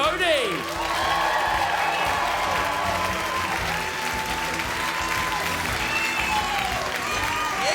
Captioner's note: crowd cheers